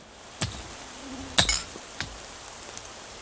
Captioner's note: clink